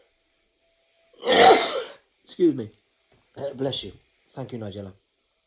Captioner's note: sneezes